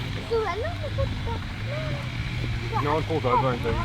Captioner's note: kids chatter